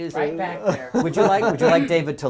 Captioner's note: laugh